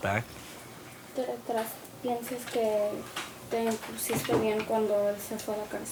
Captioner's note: speaks in foreign language